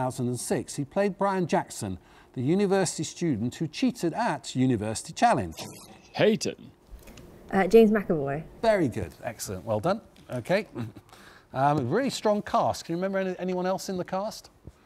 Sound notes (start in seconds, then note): 5.5 buzzer buzzes